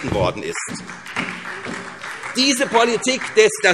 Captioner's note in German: Beifall SPD